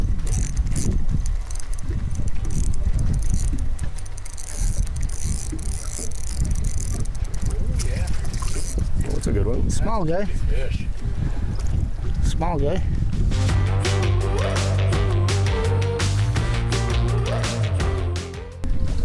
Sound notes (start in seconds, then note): 0.0 fishing rod whirring; 8.0 water sloshing; 13.3 upbeat music